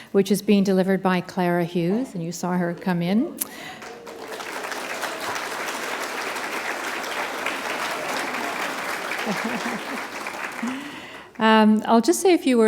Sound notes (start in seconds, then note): 4.8 applause